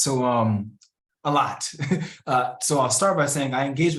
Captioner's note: laughs